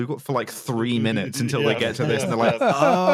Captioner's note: laughs; chuckles